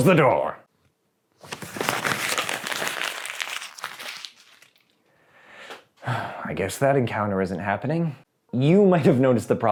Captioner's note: crumples up paper